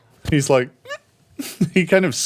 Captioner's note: squeaks